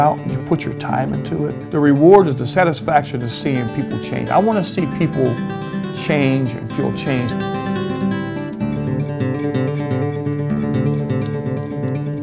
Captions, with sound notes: and you put your time into it, the reward is the satisfaction of seeing people change. I wanna see people change for change. (keyboard typing) (guitar playing)